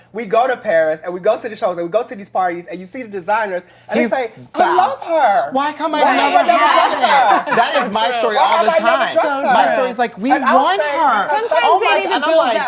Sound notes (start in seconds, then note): 6.8 laughter